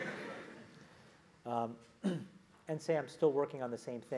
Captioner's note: laugh; cough